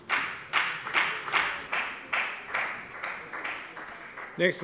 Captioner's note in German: Beifall bei der FDP